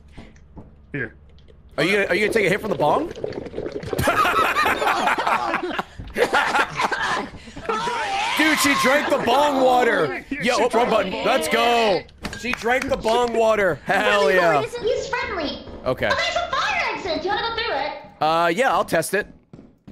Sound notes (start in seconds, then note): 4.6 water bubbling noises; 6.1 laughs